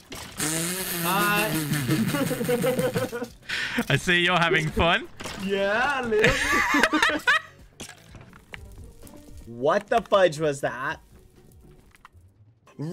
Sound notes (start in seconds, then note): 0.0 muttering; 0.0 skeletons taking damage; 1.1 laughing; 6.1 laughing